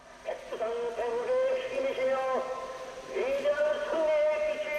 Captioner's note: speaking foreign language